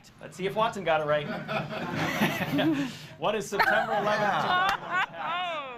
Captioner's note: laughter